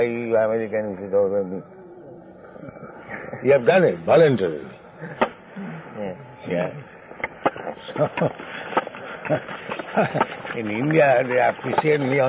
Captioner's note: chuckles